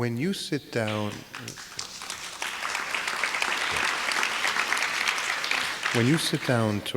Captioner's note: audience applause